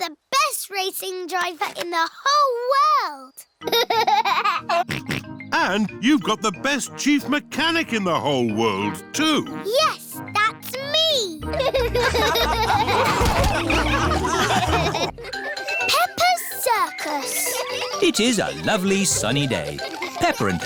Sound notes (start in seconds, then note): 3.7 laughs and snorts; 11.5 all laughing; 15.5 children giggling